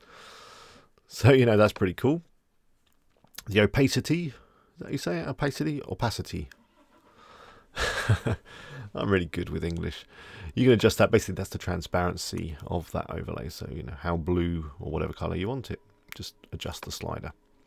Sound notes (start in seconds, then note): 7.7 laughing